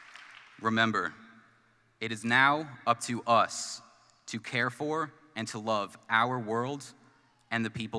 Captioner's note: applause